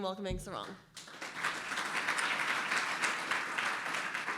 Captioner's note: applause